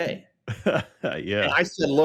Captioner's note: chuckles